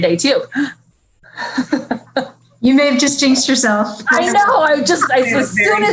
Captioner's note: chuckling